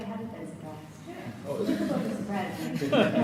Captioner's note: audience laughs